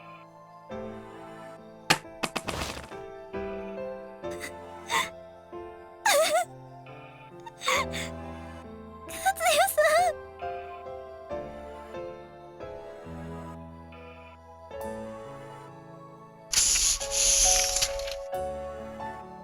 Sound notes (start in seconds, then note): 1.0 silence; 6.0 whimper